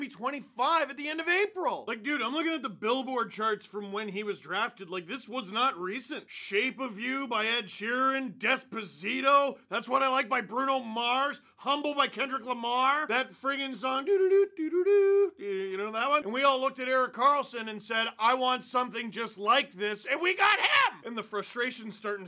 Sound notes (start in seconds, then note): 14.1 hums